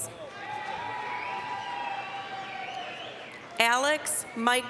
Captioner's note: applause, cheering